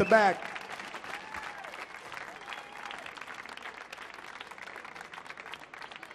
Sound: audience cheering and applauding

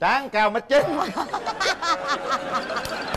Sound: laughing

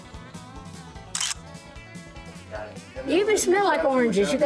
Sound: camera shutter clicks

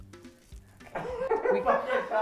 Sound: woman laughing; crew laughing

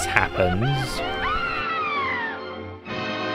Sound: screams like a woman

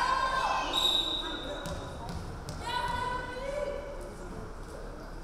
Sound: referee whistling

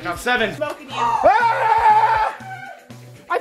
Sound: exclaiming

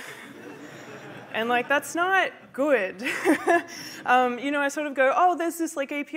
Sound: laughter; laughs

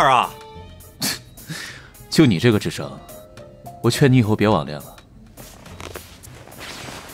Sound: snorts

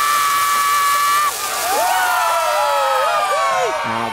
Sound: screaming; cheering

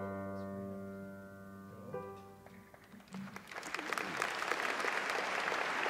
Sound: applause

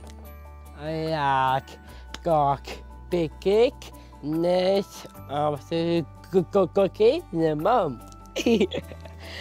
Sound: laughs

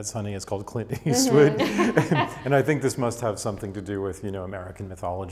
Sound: both laughing

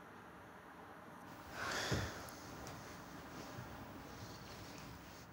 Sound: sighs

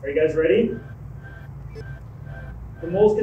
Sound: computer glitching

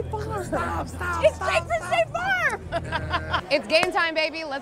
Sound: laughs

